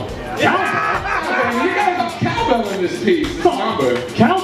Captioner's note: laughter